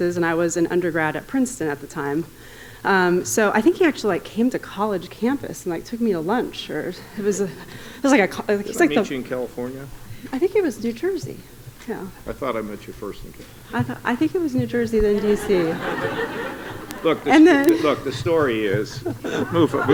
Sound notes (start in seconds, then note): 15.0 audience laughing